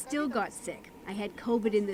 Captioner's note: speaking Foreign Language